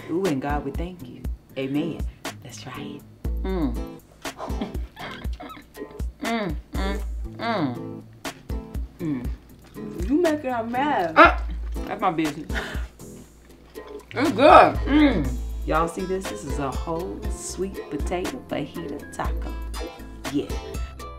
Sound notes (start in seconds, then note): 4.2 eating noises; 4.3 laughs